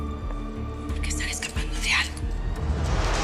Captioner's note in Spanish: Susurrando